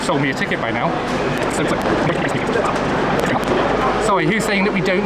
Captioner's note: sped up talking